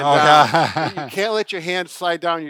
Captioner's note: laughs